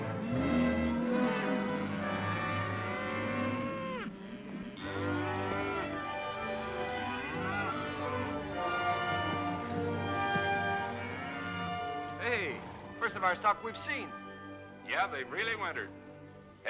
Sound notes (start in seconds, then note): 0.0 soft dramatic music; 0.2 cattle moo; 0.2 dramatic ominous music; 3.9 cattle moo; 3.9 soft dramatic music